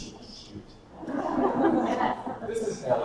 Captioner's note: audience laughter